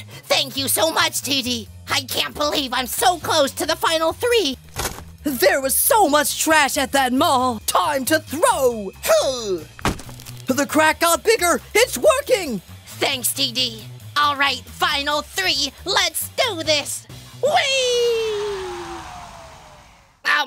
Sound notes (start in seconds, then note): 4.7 garbage hits the oven door; 9.8 garbage hits the oven door, the crack grows bigger